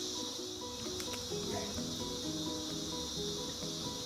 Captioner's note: bees buzzing